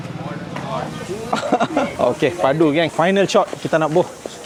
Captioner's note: laugh